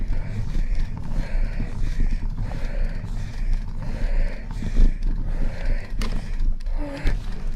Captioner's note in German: Schweres Schnaufen